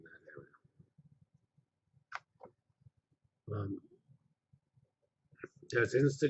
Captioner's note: pause